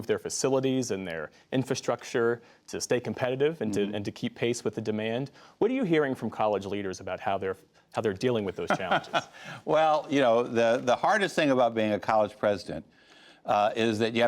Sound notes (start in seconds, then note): 8.6 laughter